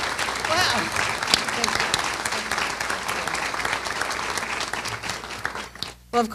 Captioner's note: applause